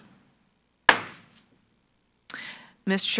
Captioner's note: gavel bangs